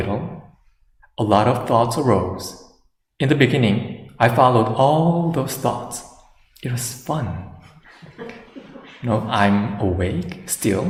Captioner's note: laughter